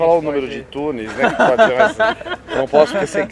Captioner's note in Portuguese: risos